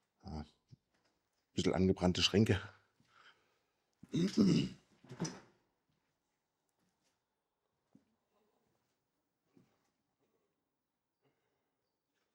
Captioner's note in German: räuspern